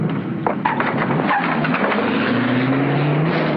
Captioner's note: tires screeching